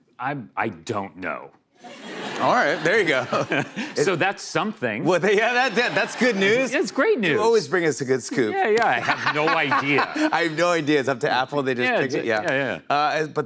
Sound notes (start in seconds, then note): 1.8 laughter